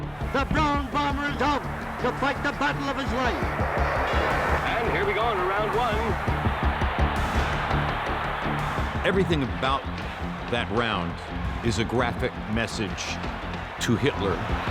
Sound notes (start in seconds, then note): 3.5 bell rings; 6.4 crowd cheering